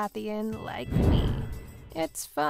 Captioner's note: thunder booming